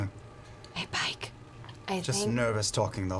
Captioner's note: whispering